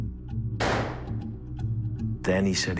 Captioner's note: gun firing